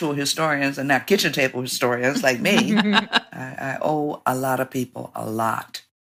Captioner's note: laughter